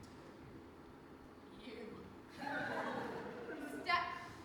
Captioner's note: voice shaking; audience laughs